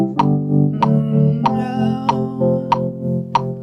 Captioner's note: humming